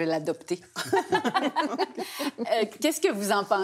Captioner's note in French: rires